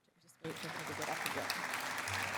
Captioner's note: applause